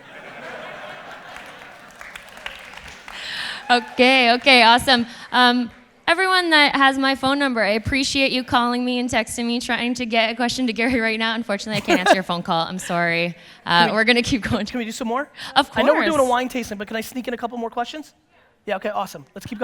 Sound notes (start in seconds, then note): 0.0 audience laughter; 2.5 audience applause